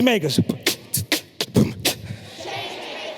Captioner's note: beatboxes